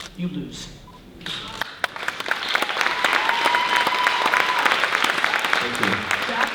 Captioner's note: audience applause